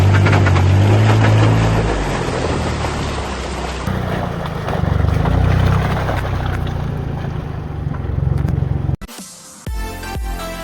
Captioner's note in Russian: Звук рёва мотора